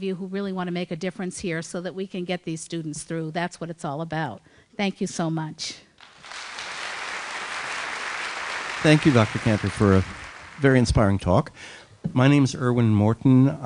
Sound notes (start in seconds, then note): 6.0 applause